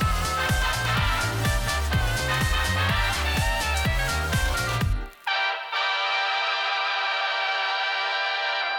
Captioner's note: applause